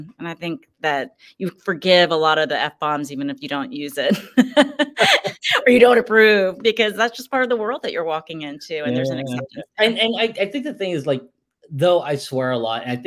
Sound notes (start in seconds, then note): 4.0 laughs